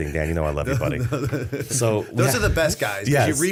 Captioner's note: chuckle